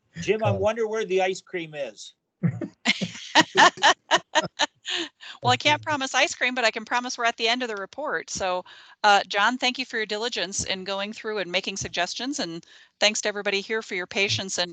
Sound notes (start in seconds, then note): 2.9 all laughing